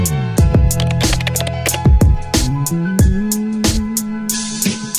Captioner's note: relaxed music; keyboard clicking